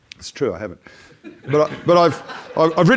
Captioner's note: audience laughs